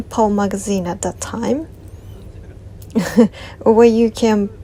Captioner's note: laughs